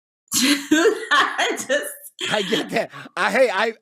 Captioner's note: laughs